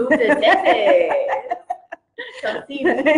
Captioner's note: laughs